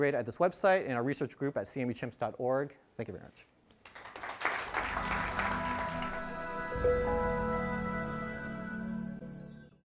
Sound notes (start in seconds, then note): 3.8 audience applauding